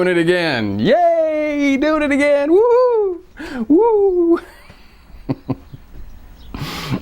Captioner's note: laughing